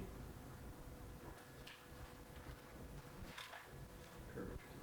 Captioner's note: silence